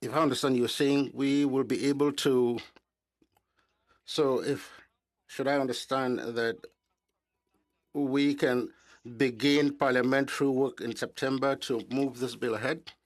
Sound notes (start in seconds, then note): 3.1 speaking in French